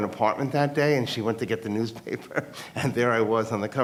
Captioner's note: laughs